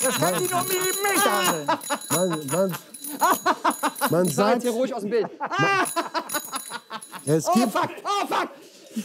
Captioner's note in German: lacht